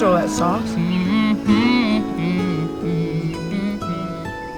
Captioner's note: humming; gentle music